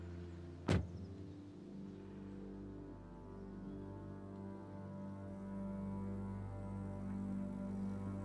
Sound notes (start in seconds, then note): 0.6 car door thudding; 3.9 gentle melodic music